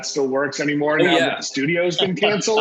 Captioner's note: laughs